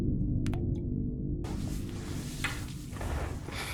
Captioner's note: water dripping